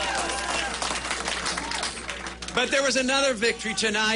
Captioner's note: applause